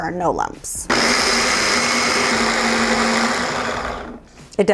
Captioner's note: blender whirs